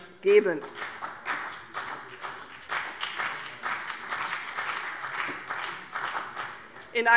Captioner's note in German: Beifall CDU und BÜNDNIS 90/DIE GRÜNEN